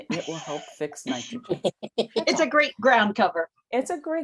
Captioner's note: laughter